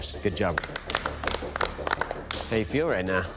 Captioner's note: applause